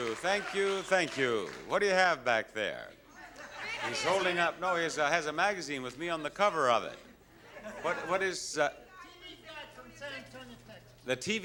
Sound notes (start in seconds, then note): 3.0 indistinct audience chatter